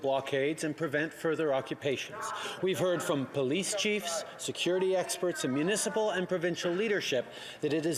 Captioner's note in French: voix de l'interprète